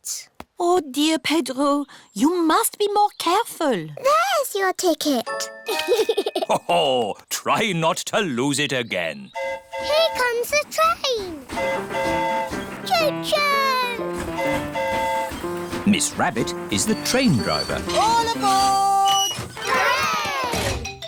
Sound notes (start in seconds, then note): 5.6 giggles; 9.4 train horn hooting; 14.1 train horn hooting